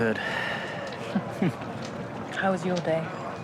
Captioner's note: both chuckle